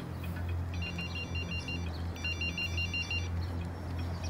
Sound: phone ringing

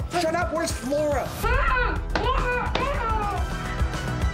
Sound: muffled screaming

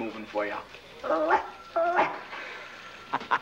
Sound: Slick barks; Slick laughs

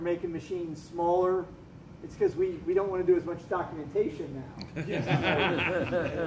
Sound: laughter

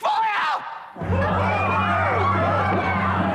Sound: screaming

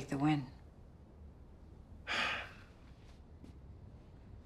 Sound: sighs

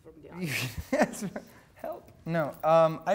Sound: laughing

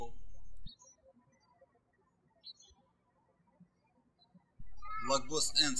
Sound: birds chirping

